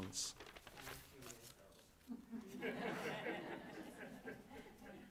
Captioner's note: audience laughing